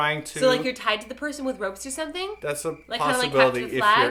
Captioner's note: the sound of crickets chirping